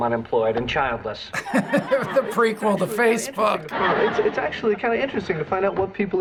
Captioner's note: laughs